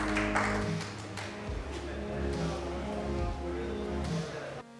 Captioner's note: applause